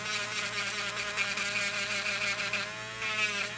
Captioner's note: buzzing